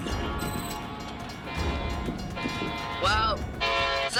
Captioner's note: train horn blowing